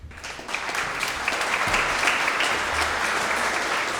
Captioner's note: audience applauds